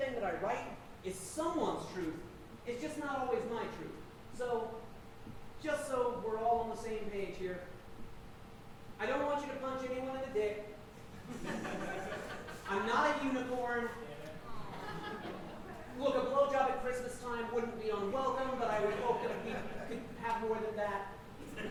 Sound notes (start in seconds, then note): 11.2 audience laughing; 14.3 audience awing